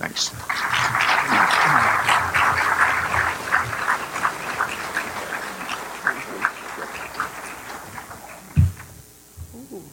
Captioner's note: applause